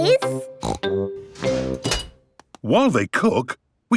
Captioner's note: beeps